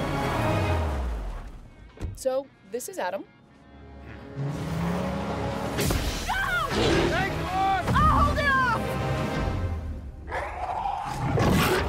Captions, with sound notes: So, this is Adam. [alien roars, snowmobiles speed away] Go! Thanks, boss! I'll hold it off!